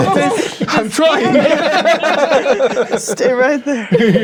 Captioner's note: players laughing